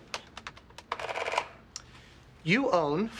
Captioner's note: adding machine rattling